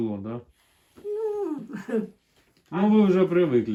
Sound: laughs

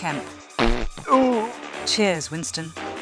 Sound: loud fart

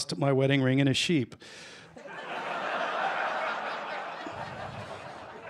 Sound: laughter

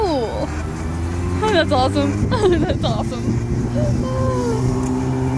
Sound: laughs

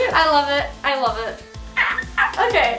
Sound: softly screaming

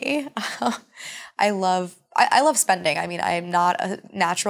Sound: chuckles

